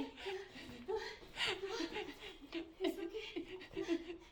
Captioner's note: woman continues panting